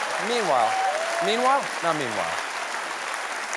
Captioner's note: applause